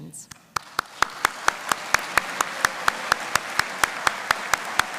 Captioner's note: audience applauding